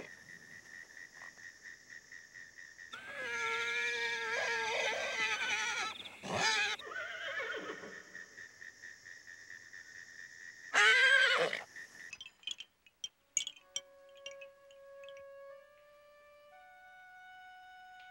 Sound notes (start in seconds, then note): 0.1 frogs croaking; 2.9 Toshiko neighs; 8.2 frogs croaking; 10.7 Toshiko neighs; 12.0 chimes clinging; 13.7 somber music